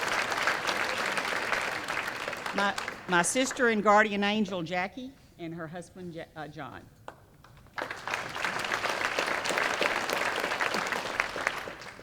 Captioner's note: applause; applause